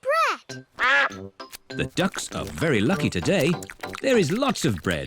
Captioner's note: quacks